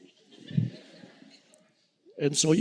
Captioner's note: audience laughing